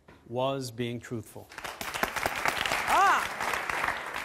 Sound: audience applause

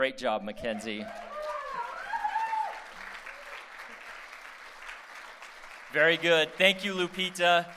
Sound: applause

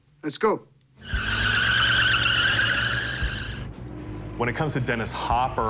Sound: screeching tires

